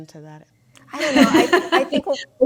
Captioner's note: panelists laughing